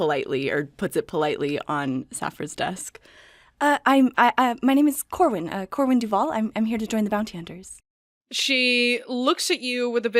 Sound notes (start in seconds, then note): 3.5 stammering